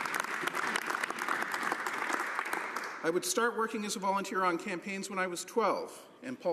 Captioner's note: some Applause